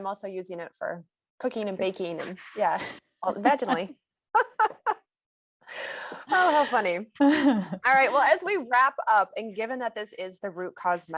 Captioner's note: laughs